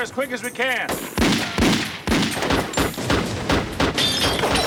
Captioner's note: gunshots